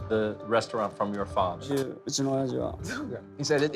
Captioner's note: speaking Japanese